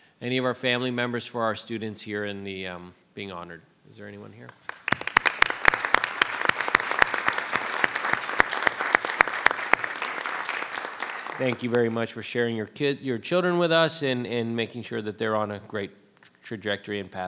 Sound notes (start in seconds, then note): 4.5 audience applauds